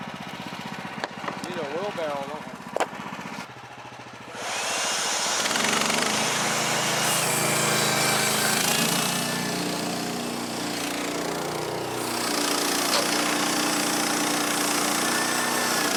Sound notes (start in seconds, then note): 1.9 motor running